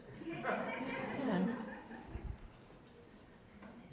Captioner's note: laughter